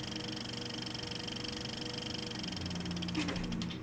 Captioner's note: clicking of film in the projector's sprockets; clicking grinds to a halt